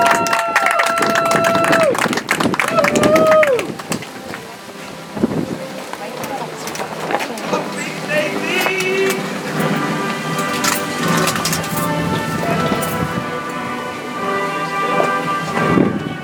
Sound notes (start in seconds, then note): 2.5 audience applauds; 6.6 soft music